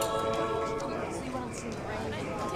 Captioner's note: chattering